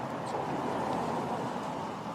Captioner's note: vehicles driving